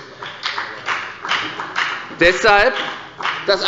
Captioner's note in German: Beifall bei der FDP